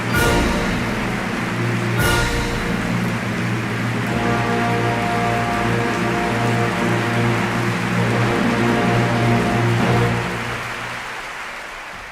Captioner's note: clapclapclapclapclapclapclap